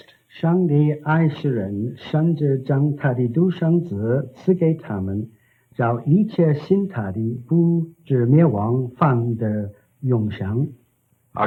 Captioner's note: speaking in Chinese